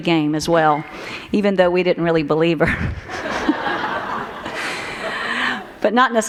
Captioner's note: laughter